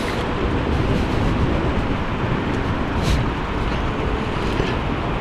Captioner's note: wind Blowing